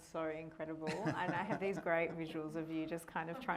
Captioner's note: laughing